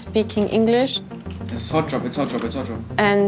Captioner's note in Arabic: على سماعة الرأس